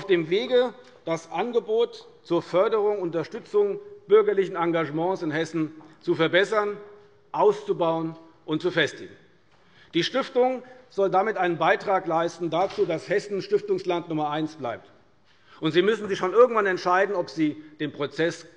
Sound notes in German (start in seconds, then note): none